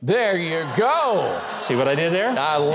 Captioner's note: audience laughs